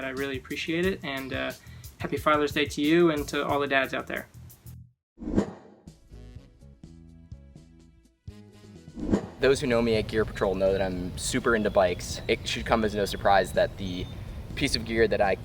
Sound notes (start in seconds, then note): 5.3 air whooshing; 6.0 dramatic pop music